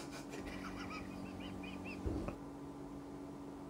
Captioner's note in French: rire étouffé